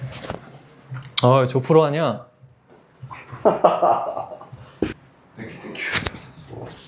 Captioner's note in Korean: 웃음